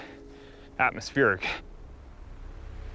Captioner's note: Alex panting; gentle music